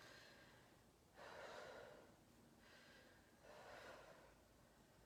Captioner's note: breathing